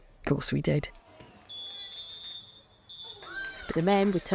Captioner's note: referee's final whistle